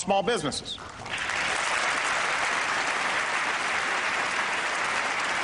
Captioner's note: applause